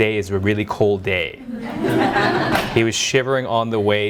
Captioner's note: audience laughing